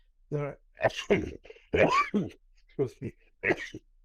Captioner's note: coughs